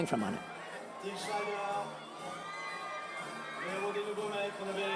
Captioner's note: fans screaming